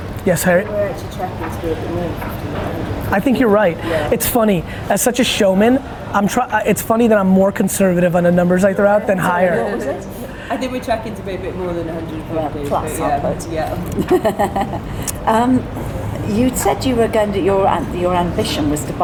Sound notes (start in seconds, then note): 13.7 laughs